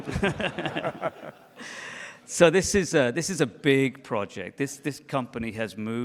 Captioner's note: laughs